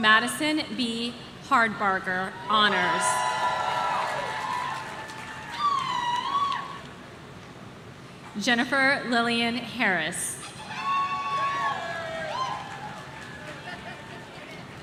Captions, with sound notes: Madison B Hardbarger, Honors. (audience cheering) Jennifer Lillian Harris.